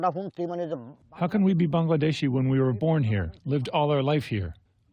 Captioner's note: through translator